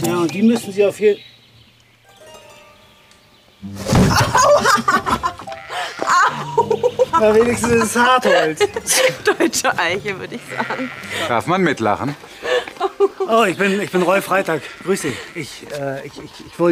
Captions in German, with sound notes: Noch nicht mal besonders gut. - Die müssten Sie... (Es kracht.) Aua. Deutsche Eiche, würde ich sagen. (Sie lacht.) Darf man mitlachen? - Roy Freytag. Ich grüße Sie.